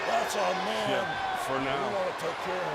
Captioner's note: crowd cheering